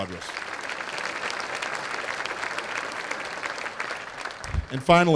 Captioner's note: applause